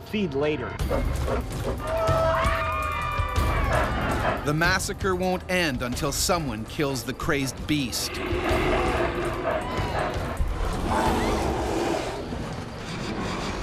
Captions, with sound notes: They'll feed later. (yelling) - [Voiceover] The massacre won't end until someone kills the crazed beast. (bear growling)